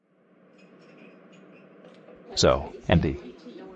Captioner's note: dishes clinking, background chatting